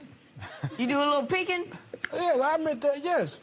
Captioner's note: laughs